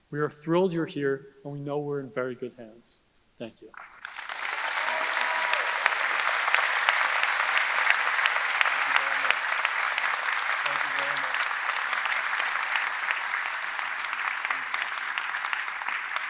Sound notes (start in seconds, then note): 4.3 audience applauding; 4.3 audience cheering